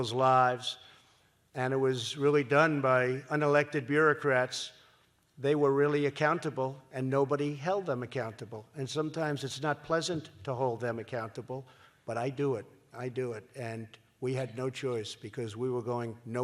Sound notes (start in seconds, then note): none